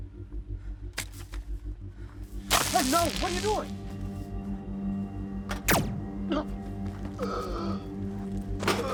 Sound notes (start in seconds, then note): 2.5 static crackling; 5.5 gun firing; 7.2 gasping